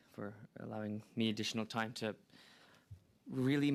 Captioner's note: speaking french